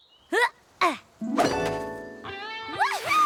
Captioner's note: rainbow dash grunts